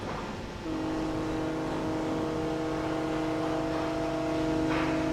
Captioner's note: horn blowing